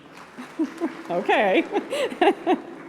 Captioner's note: applause